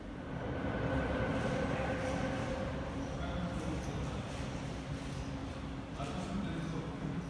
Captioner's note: train leaves to the next station